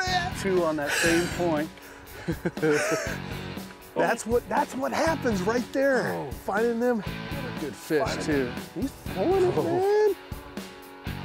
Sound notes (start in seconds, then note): 2.2 laughter